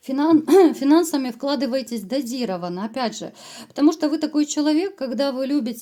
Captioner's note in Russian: откашливается